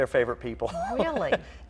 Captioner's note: chuckles